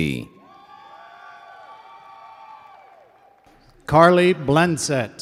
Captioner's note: audience cheers and applauds